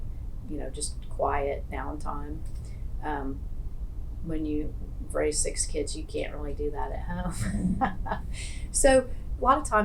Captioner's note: laughs